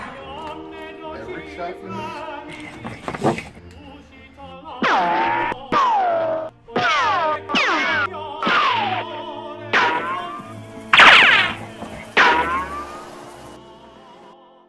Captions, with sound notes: You missed EVERY shot? [bullet ricochet]